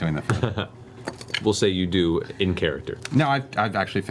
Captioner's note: laughs